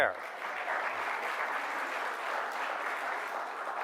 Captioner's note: audience applauds